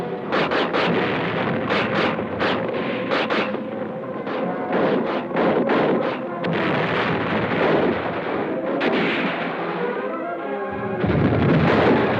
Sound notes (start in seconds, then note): 6.4 bombs explode